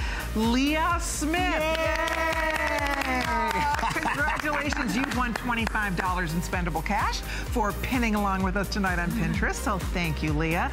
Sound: applause

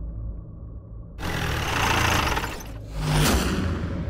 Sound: engine cuts off

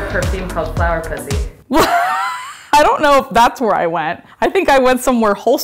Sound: laughing

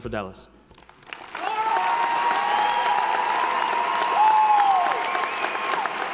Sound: audience applauding; audience cheering

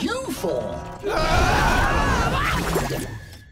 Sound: screaming

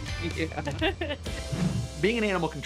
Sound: both laugh

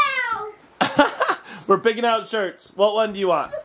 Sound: laughing

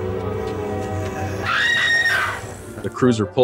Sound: growling; screaming

